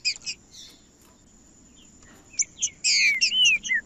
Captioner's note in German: trinca ferro cantando